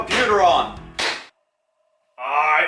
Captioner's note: computer smacking stops